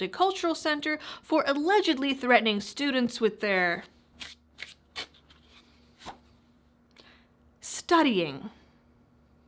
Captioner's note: shuffling cards